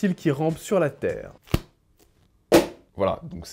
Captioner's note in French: Livre qui se ferme et qui tombe